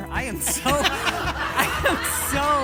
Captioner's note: audience laughing